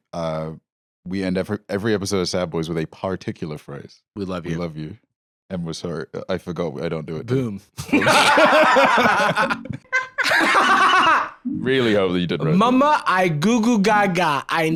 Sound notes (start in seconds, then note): 7.8 both laughing; 9.9 laughs